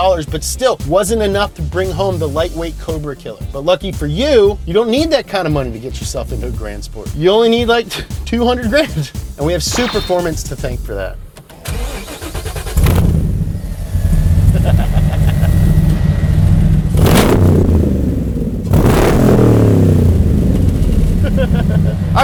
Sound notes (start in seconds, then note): 11.3 car starts; 14.5 laughs; 17.0 engine revving; 21.2 laughs